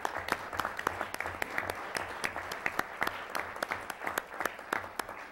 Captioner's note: applause